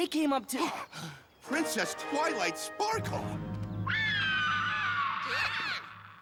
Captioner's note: gasp